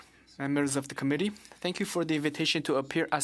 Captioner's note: speaking French